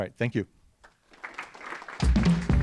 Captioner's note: applause